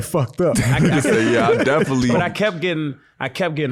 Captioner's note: all laughing